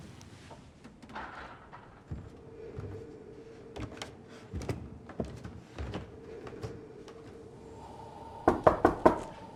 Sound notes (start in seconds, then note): 3.7 footsteps climbing stairs; 8.4 knock knock